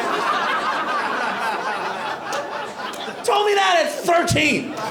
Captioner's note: laughter